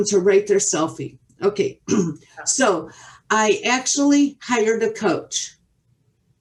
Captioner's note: clears throat